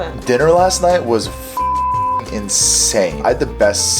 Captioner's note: beep